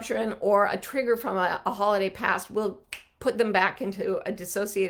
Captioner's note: snapping